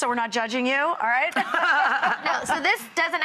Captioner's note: laughing